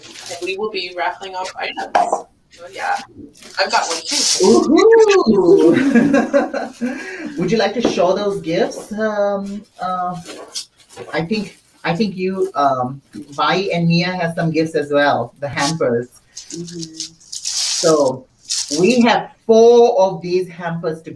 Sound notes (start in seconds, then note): 4.3 laughs; 4.4 group laughs